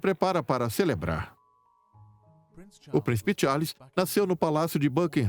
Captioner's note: voiceover